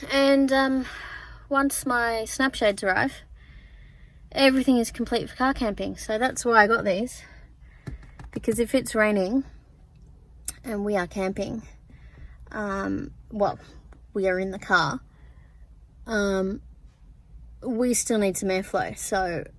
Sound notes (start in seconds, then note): 7.8 taps weathershields